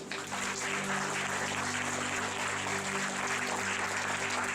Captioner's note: applause